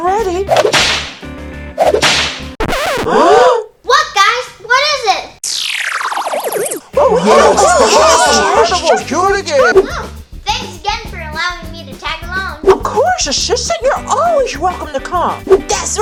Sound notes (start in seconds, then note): 0.2 slapping sounds and gasps; 5.6 squealing sound; 7.6 characters talking in unison